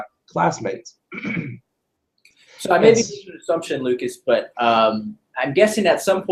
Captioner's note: cough